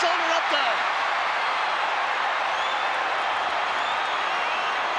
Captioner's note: crowd cheering